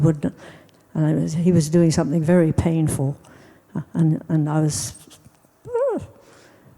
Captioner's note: winces